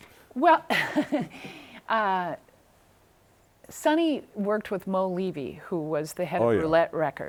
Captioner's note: laughs